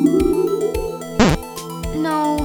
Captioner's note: scanning sound; negative buzz!